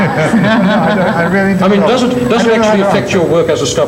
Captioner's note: all laugh